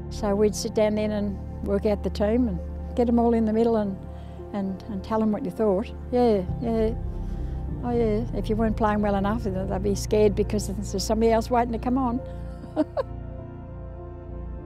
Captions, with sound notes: So we'd sit down then and work out the team and get them all in the middle and tell them what you thought. Yeah, oh yeah, if you weren't playing well enough they'd be scared because there's somebody else waiting to come on. [Laughs]